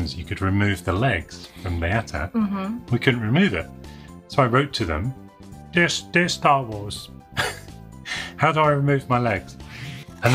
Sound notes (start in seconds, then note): 6.0 in child's voice; 7.4 laughs